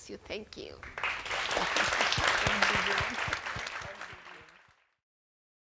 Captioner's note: attendants applauding